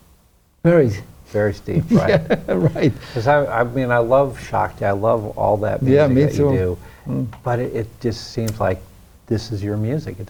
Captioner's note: laughs